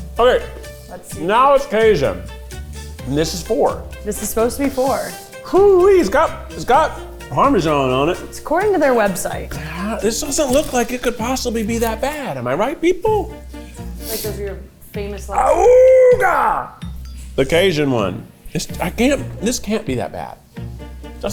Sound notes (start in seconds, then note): 15.5 imitating klaxon